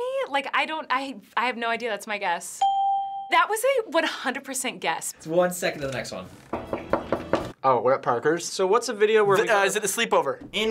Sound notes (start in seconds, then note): 2.6 ding; 6.5 knocking